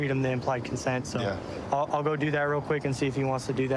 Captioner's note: none